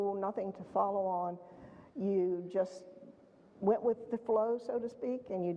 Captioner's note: none